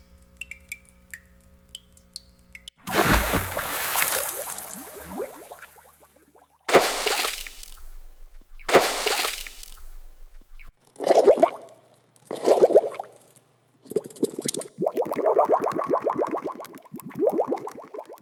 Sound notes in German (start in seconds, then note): 0.0 Tropfgeräusch; 2.8 Spritzgeräusch; 12.4 Blubbern